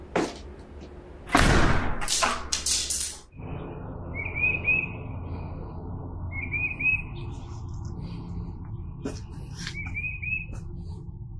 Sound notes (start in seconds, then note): 0.2 blinds clattering; 1.3 door slamming; 3.3 birds chirping